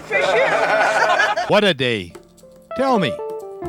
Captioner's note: laughter